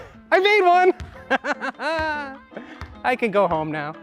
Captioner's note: triumphant laughing